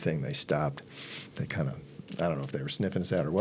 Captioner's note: sniffs